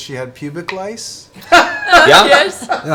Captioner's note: laughs